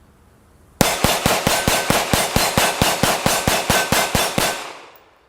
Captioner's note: gun fires